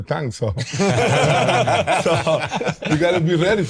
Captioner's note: all laughing